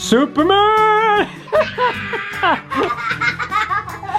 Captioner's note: laughing